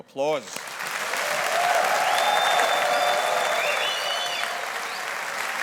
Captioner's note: audience applauding